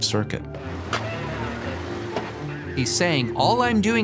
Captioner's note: radio running in background